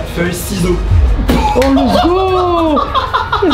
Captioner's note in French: éclate de rire